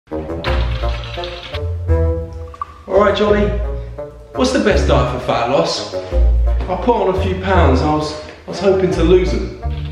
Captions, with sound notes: (light horn music) (keyboard clicking) - All right, Jonny. What's the best diet for fat loss? I've put on a few pounds and I was hopin' to lose 'em.